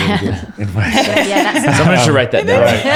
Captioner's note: laughing